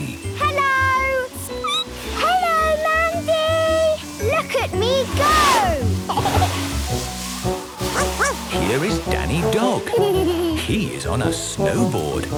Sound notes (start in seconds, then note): 1.5 squeaking; 6.0 giggling; 7.6 barking; 9.5 laughing